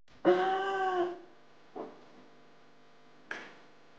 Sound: woman gasps

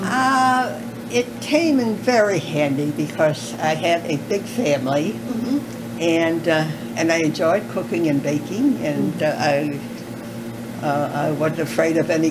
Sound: coughing

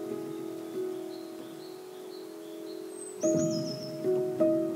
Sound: birds chirping; gentle music

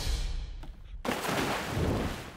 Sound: splash

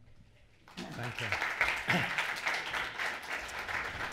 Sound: applause

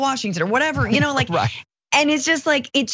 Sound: laugh

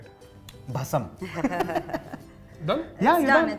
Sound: laughter

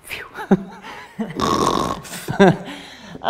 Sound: snores

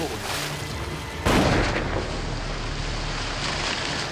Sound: bang

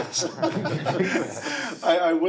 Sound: all laugh

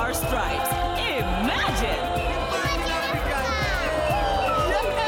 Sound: cheering; man and child chanting

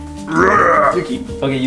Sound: roaring

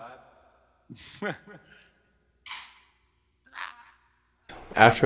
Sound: laughs

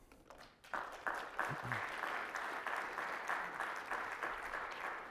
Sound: audience clapping

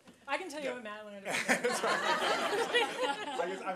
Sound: laughter

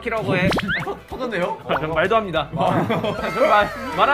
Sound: laugh

